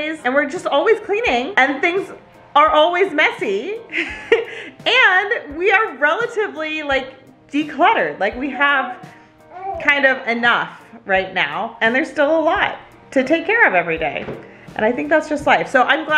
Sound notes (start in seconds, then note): 4.0 laughs